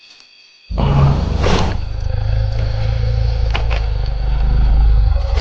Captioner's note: dinosaur growling